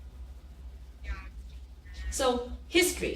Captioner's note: people chattering